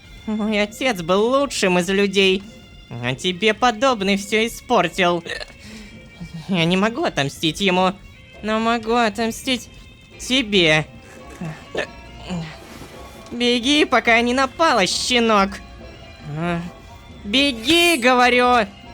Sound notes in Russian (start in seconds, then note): 5.2 ик; 11.9 ик